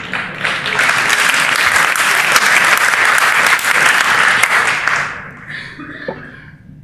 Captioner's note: laughter; applause